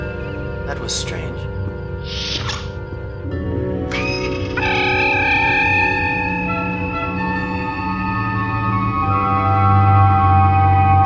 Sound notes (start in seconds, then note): 3.9 transporter energizing